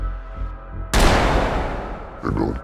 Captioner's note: gunshots fired